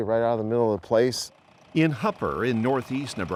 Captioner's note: tractor engine rumbles